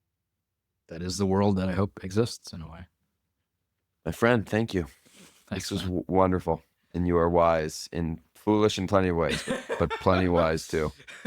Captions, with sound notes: That is the world that I hope exists, in a way. My friend, thank you. This was wonderful. Thanks, man. And you are wise and foolish in plenty of ways- [laughs] ... but plenty wise too.